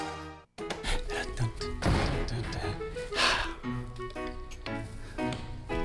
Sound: humming

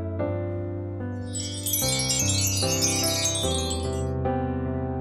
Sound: bell chiming

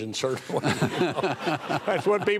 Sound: audience laughing

